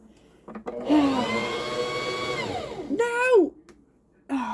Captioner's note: sigh